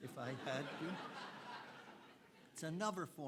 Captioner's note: audience laughing